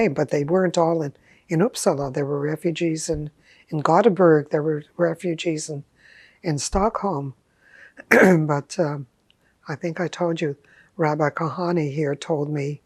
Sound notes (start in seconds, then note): 8.0 clears throat